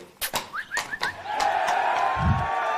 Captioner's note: whistles; sirens and shouting